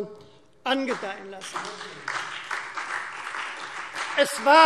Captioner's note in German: Beifall Freie Demokraten, vereinzelt CDU und SPD